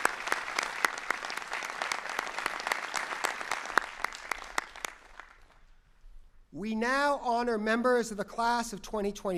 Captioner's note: applause